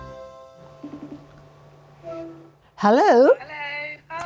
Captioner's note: bright music; phone rings